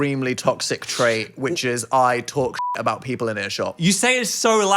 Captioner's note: beep